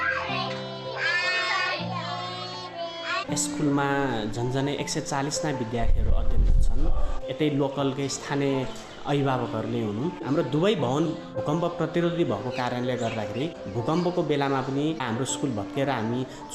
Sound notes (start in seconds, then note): 3.2 non-english speech